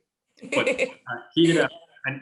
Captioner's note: sophomores laugh